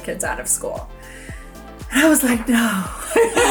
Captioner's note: sighs; laugh